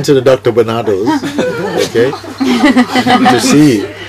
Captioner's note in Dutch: meer gelach